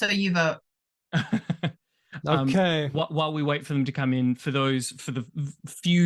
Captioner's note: chuckles